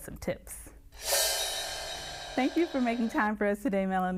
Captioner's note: air whooshing